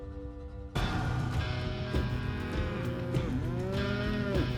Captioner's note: cattle moo